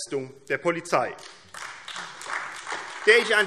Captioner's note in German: Beifall AfD